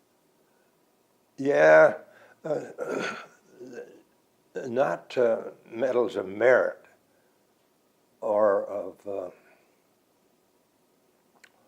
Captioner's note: clears throat